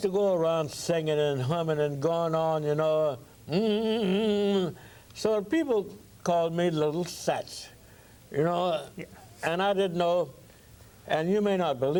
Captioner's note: humms